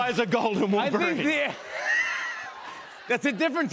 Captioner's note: laughter